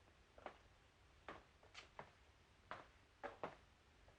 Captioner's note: footsteps